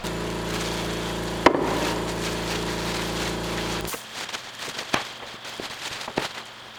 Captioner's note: motor whirring; plastic wrap rattling